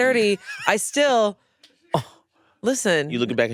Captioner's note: laughs